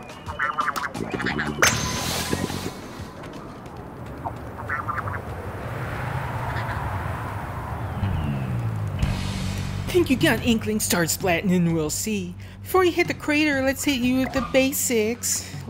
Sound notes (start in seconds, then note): 1.5 high pitched ping and whoosh; 5.4 wind